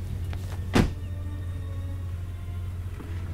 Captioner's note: door closes